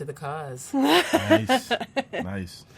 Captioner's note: laughs